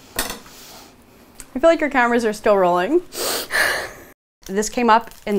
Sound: sobs

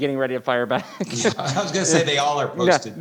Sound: laughs

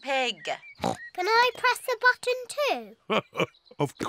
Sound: oinks; laughs

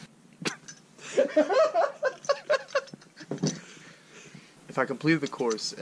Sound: laughs

